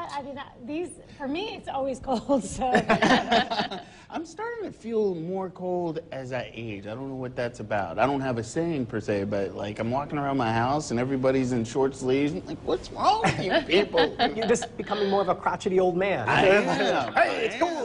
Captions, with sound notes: COLD -- I WAS JUST COMPLAINING. (LAUGHING). SO IT'S SO COLD THAT -- FOR ME IT'S ALWAYS COLD. SO. I'M STARTING TO FEEL MORE COLD AS I AGE. I DON'T KNOW WHAT THAT'S ABOUT. I'M WALKING AROUND THE HOUSE AND EVERYONE IS